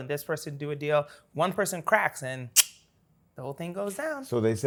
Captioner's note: clicks tongue